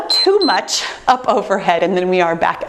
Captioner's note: timer beeps